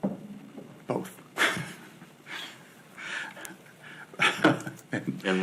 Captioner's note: laughs